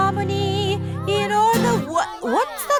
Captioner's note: commotion